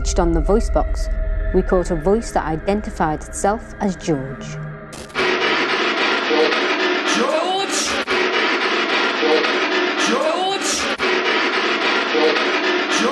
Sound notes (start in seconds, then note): 5.3 static pulsing; 6.3 voice On Radio; 9.4 voice On Radio; 11.9 voice On Radio